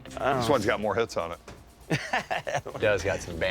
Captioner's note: laughs